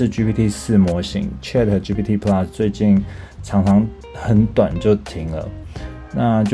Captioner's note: conversation